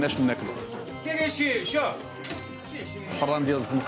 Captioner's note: calling in Arabic; speaking Arabic